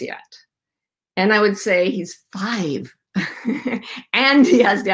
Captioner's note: laughs